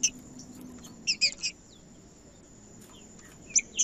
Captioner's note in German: trinca ferro cantando